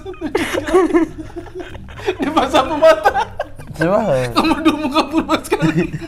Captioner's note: laughing